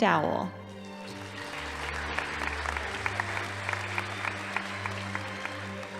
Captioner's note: audience applauding